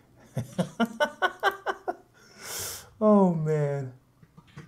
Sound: laughs

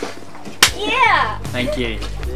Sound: slaps

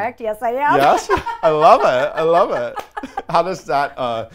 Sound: laughs

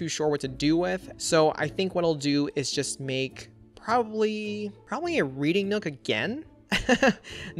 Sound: laughs

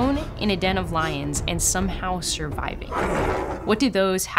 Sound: lion roars

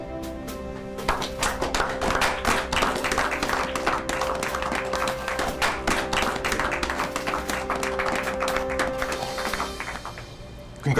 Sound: clapping

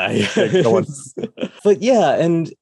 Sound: laughs

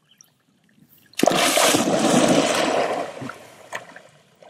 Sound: water splashing

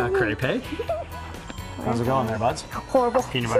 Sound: laughter

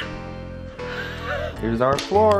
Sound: laughs

